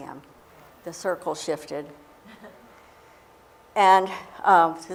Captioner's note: chuckle